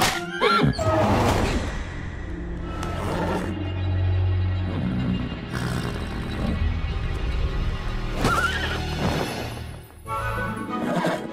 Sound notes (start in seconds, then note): 0.4 frustrated neigh